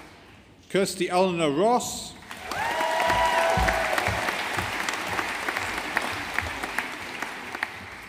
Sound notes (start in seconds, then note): 2.2 audience applauding